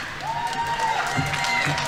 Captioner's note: audience applauding; audience members cheering